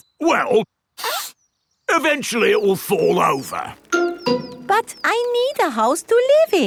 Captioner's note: sniffs